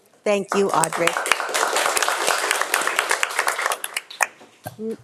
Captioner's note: audience applauding